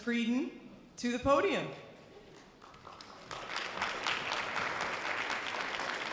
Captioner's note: light audience applause